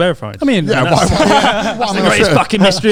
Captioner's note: all laughing quickly